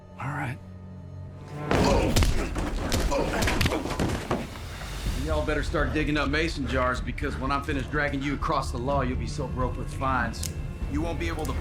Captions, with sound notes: ALL RIGHT. [STOMP] [PUNCH] [PUNCHING] Y'ALL BETTER START DIGGING UP MASON JARS, BECAUSE WHEN I'M FINISHED DRAGGING YOU ACROSS THE LAW YOU'LL BE SO BROKE WITH FINES... [KNIFE CLICKS] YOU WON'T BE ABLE